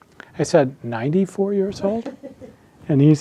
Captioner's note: attendee laughing